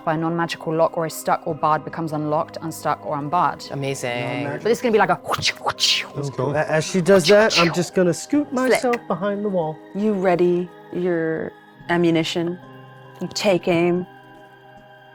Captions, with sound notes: by a non-magical lock or stuck or barred becomes unlocked, unstuck, or unbarred. - Amazing. - But it's gonna be like a (mimics whip cracking). - As she does that, I'm just gonna scoot myself behind the wall. - You ready your ammunition, you take aim, you shoot.